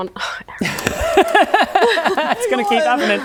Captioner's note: unsympathetic laughter